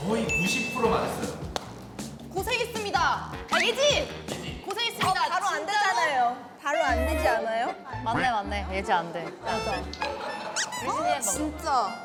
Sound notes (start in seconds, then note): 3.5 then shouts her name